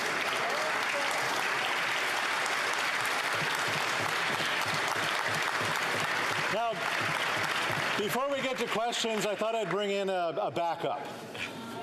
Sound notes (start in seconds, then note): 2.6 some Applause